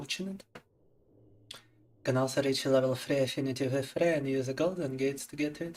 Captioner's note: speaking in Russian